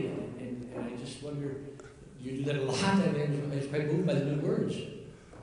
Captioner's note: murmurs